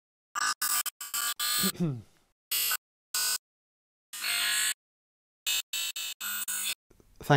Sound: interference

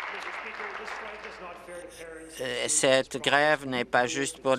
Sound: applause

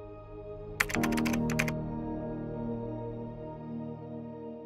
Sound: typing sound

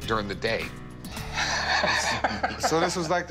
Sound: laughing

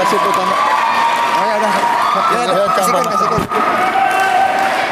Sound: applause

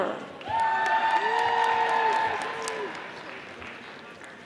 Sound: audience applauding

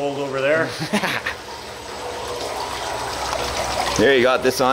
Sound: laughing

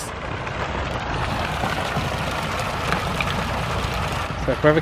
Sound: water splashing

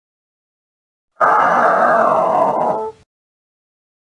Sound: sound of zombie death

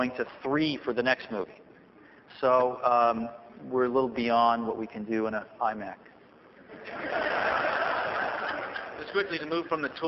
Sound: laughter

